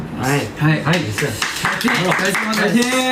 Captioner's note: clapping